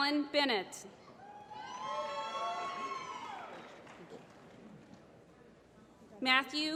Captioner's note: applause